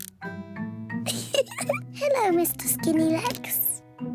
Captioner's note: laughs